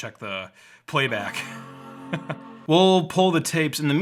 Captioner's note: buzzing